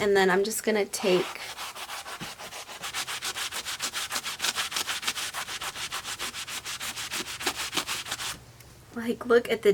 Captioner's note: scrubbing sounds